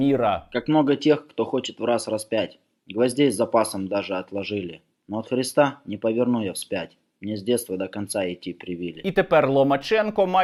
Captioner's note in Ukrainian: читає вірші